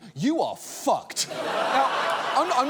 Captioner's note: studio audience laughs